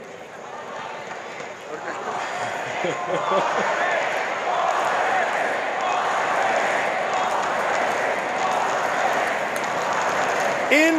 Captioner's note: crowd chatting